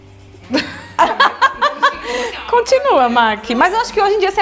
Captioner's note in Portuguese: risos